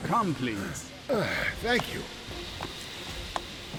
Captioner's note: de Blowitz sighs